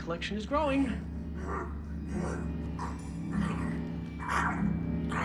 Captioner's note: grunting and snarling